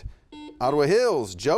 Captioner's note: buzzer beeping